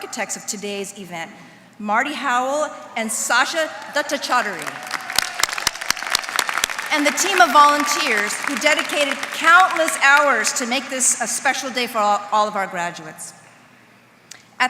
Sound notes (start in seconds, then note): 4.5 applause